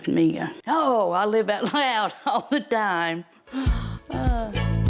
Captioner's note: laughs; upbeat music